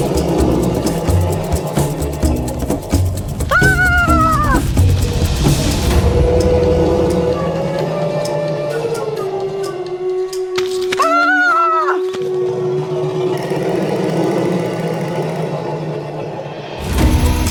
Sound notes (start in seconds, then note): 0.0 upbeat chase music; 3.5 Luna yelling continues; 5.9 dinosaurs roaring continues; 11.0 Luna yelling continues; 12.1 dinosaurs roaring continues